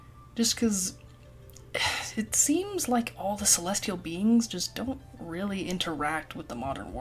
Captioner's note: sigh